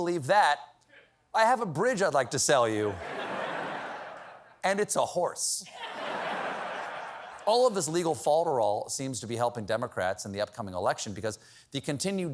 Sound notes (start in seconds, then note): 5.6 laughter